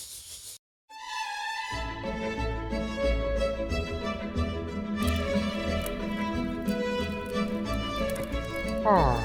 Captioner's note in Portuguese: Sons de vela